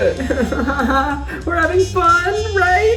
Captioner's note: laughing